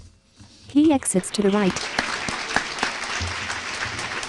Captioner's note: applause